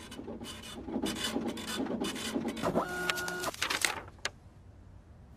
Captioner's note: printer whirring